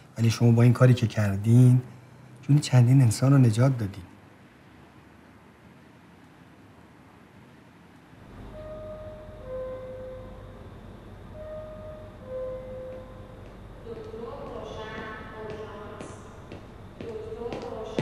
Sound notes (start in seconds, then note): 4.3 someone talking through pager